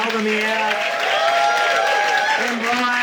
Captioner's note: audience cheering